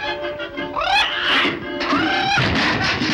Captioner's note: Sinbad shrieks; Salty laughs